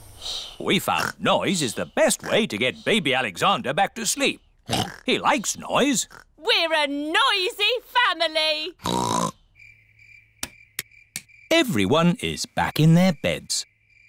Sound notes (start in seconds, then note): 4.6 oinks